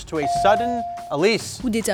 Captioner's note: buzzer chimes